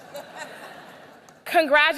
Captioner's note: laughter